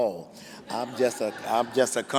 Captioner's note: laughing